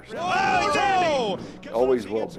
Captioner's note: announcers shouting